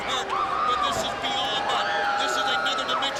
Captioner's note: Daffney screams